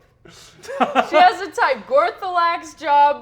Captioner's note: Brennan laughs